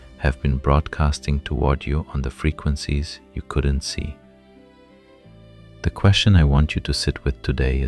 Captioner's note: thoughtful